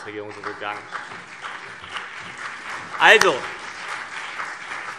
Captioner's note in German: Beifall CDU und BÜNDNIS 90/DIE GRÜNEN